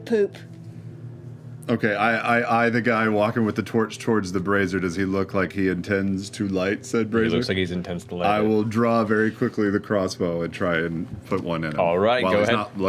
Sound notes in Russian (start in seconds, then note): none